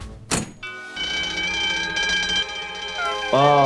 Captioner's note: spy music; bell ringing